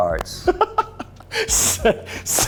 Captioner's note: laughing